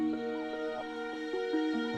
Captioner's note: none